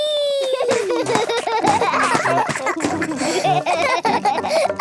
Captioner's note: both laugh